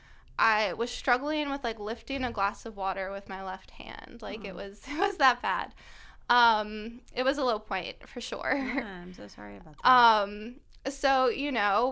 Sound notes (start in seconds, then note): 8.5 laughter